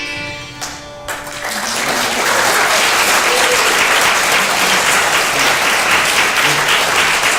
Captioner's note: applause